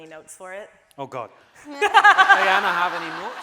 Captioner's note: audience laughing